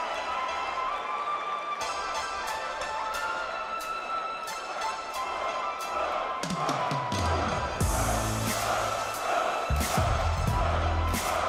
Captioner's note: crowd cheering